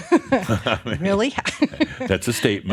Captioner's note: they chuckle